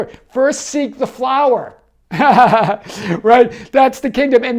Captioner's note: laughs